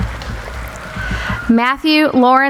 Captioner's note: applauding